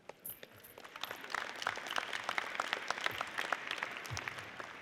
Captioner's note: audience applauds